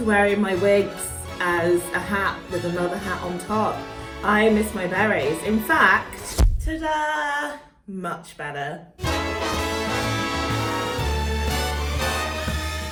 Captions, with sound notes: wearing my wigs as a hat with another hat on top. I miss my berets. In fact, (popping noise) ta-dah! Much better. (trumpet jazz music)